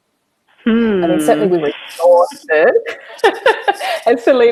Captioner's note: chuckles